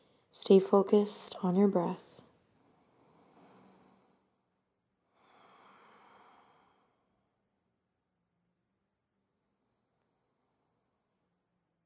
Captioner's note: deep breathing